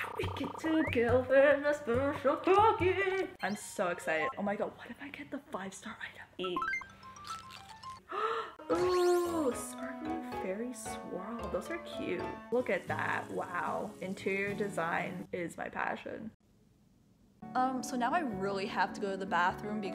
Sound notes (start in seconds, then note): 8.1 gasp